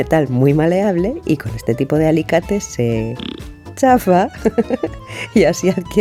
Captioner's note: laugh